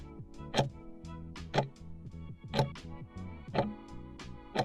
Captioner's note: timer ticking